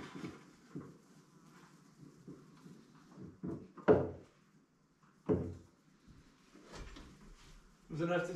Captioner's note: footsteps